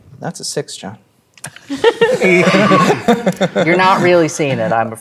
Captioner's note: players laughing